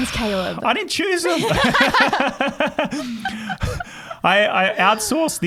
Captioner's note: laughing